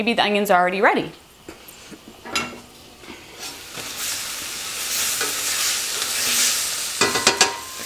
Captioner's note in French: Kitchen Noise